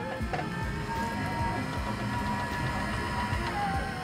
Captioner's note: car door humming